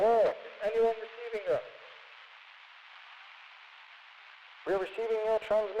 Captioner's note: radio Voice